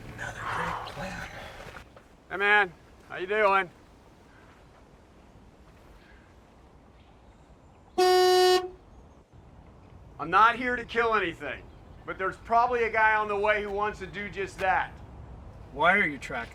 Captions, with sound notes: (blows hard) - Hi man, how you doing? (horn blows) I'm not here to kill anything, but there's probably a guy on the way who wants to do just that. - Why are you tracking?